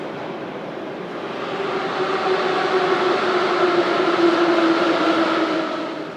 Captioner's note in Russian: прибытие поезда на станцию